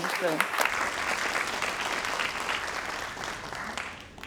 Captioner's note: crowd applauding